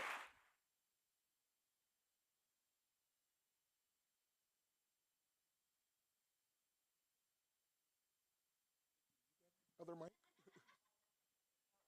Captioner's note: applause